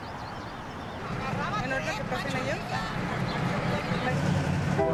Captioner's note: street ambience